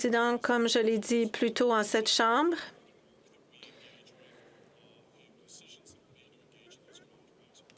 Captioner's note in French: voix de l'interprète